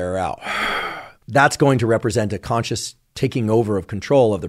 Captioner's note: inhales; exhales